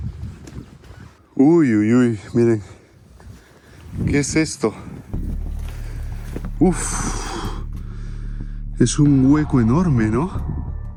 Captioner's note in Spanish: suspiro